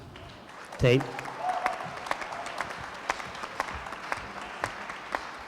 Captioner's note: applause